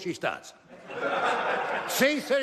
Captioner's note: laughter